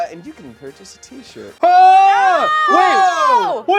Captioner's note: loud yelling